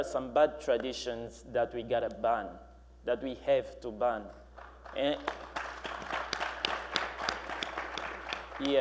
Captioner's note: applause